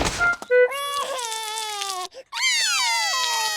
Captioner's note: cries; both cry